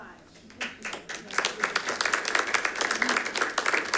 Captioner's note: attendants clapping